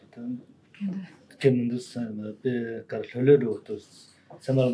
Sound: talking in foreign language

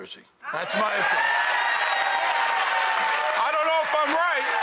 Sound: audience cheering

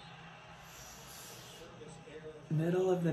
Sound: hisses

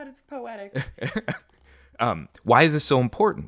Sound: laughing

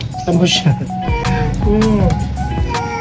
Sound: Mapa Meowing; kiss sound

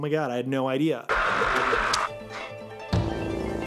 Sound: Beetlejuice screaming

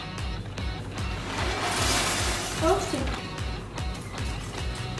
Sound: pouring

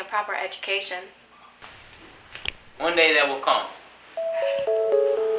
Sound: snap

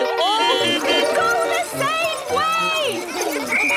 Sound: beeping; whistle blowing

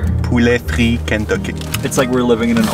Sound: speaks in foreign language

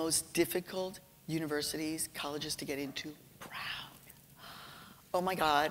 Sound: whispering

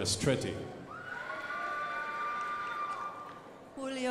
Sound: crowd applauding

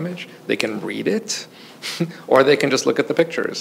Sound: chuckles

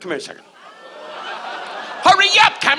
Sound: audience laughs

